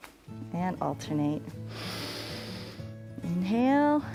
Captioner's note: inhales